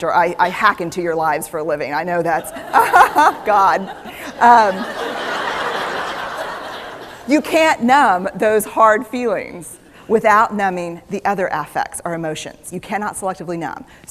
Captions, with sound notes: I hack into your lives for a living. God. (Laughter) You can't numb those hard feelings without numbing the other affects, our emotions. You cannot selectively numb.